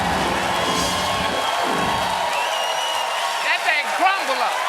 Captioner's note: cheers and applause